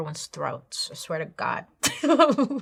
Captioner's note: laughs